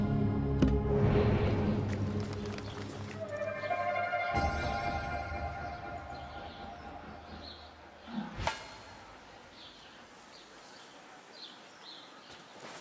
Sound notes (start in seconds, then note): 2.0 applause